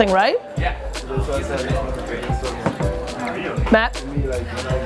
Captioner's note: people chat